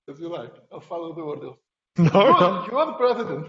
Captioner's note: speaking quietly; laughing